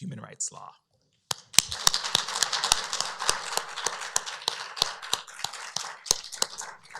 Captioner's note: applause